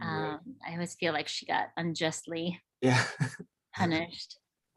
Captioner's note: laughs